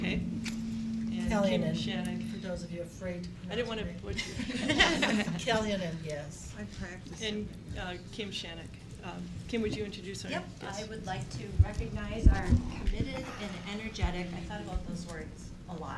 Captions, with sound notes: And Shannon. Kellianan, for those of you afraid to pronounce her name. I didn't wanna butcher it. (laughing) Kellianan Guest. Okay. And Kim Shannok. Kim, would you introduce our... Yep, I would like to recognize our committed and energetic, I thought about those words a lot